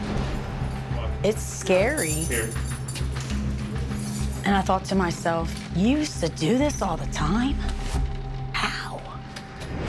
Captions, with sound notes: It's scary. (chain rattling) And I thought to myself, you used to do this all the time? How?